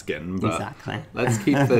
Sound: laughs

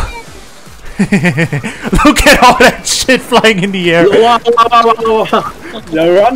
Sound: laughs

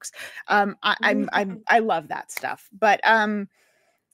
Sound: chuckles

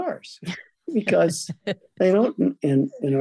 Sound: laughing

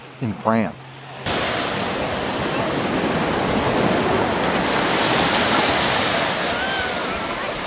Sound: waves whooshing; people chattering

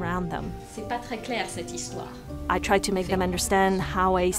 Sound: speaking foreign language

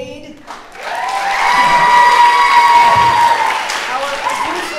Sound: audience cheering

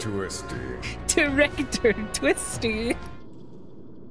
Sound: laughing

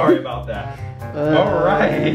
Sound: all laughing

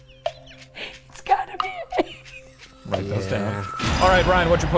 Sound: wheezes

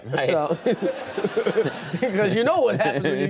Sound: audience laughing

